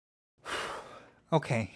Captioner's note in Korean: 한숨